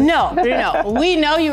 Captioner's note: laughing